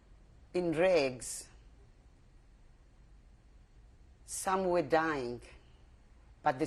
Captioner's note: pauses for 3 seconds